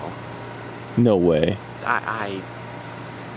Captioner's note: stutters